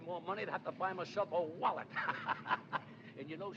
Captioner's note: laughs